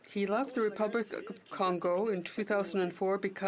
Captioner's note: speaking French